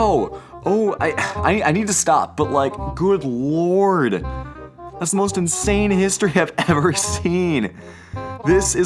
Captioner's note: sigh